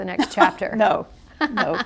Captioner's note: laughter